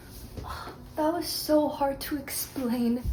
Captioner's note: heavy sigh